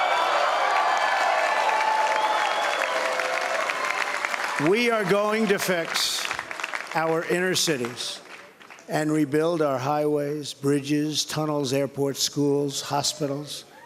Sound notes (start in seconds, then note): 4.2 cheering